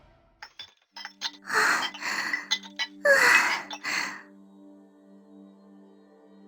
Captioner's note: panting